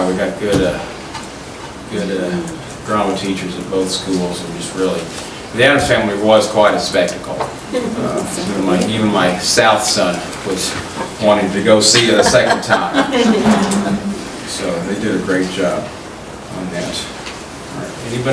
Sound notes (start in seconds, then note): 7.7 soft chuckling; 12.9 laughing